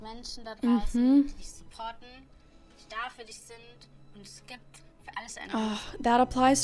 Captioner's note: speaking in German